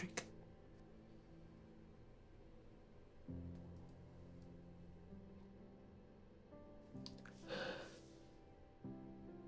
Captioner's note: sighs